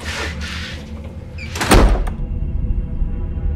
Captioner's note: door unlatching; door slams; tense music